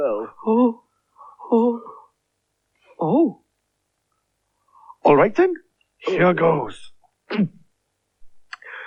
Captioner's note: nervously